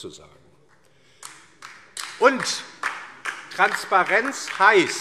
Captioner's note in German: Beifall DIE LINKE